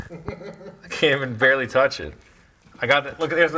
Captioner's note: laughing